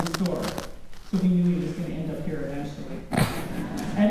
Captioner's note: laughter